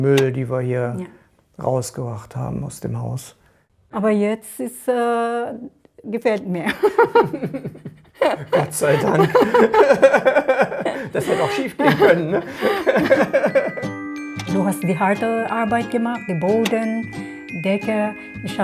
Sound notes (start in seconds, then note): 6.7 both laugh; 10.3 laughing